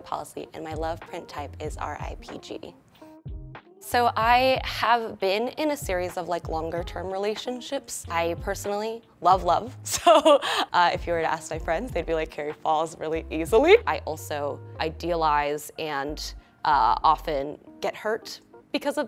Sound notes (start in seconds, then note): 9.1 laughs genuinely